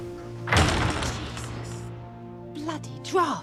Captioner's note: loud slamming